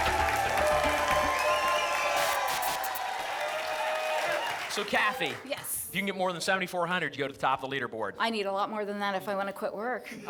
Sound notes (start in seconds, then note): 0.0 applause and cheering cont; 2.1 static; 3.2 applause and cheering cont